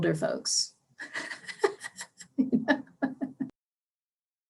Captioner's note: laughs